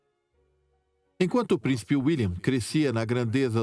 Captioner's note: voiceover